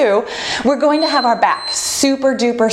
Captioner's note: bell dinging